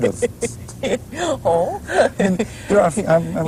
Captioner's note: laughter